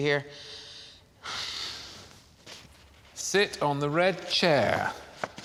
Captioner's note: sighing